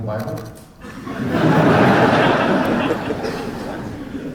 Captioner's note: laughter